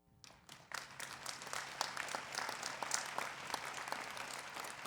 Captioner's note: people clapping